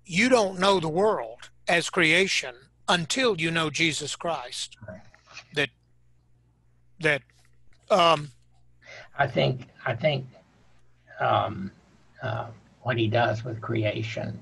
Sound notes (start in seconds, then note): none